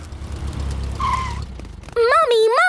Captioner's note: tires screeching